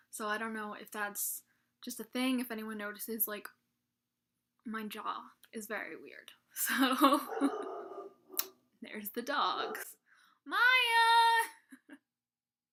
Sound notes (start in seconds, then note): 7.0 laughs; 7.2 dog barks